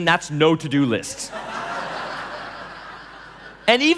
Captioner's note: laughing